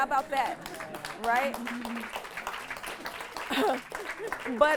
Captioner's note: audience claps